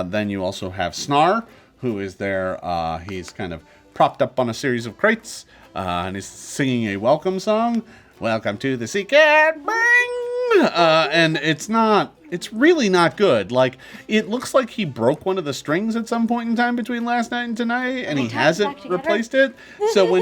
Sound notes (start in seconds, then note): 9.8 imitates string being plucked